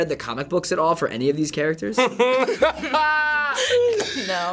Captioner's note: laughing uproariously